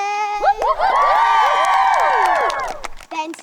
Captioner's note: campers cheering; campers applauding